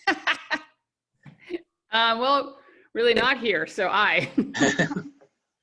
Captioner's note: laughing